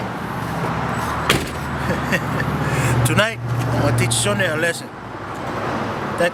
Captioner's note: laughs